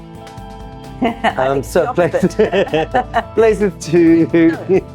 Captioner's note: laughs